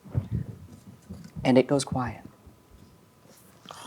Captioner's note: regular voice